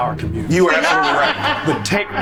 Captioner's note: group laughs